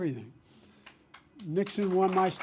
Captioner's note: applause